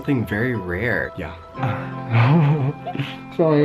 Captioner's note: laughs